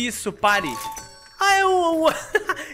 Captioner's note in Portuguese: risos